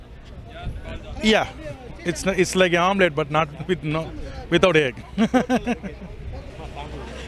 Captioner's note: chuckles